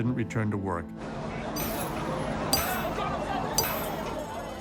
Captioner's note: distant sirens blaring